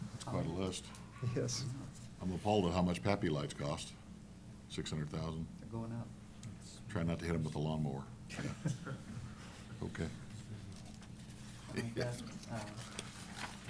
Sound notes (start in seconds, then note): 8.3 laughter